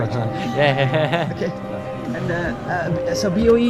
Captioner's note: nervous laughter